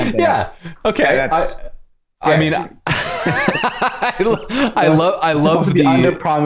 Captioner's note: laughter